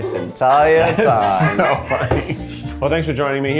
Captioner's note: crew laughing